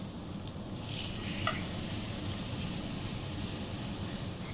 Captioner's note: meat sizzling